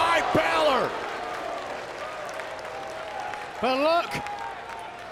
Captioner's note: applause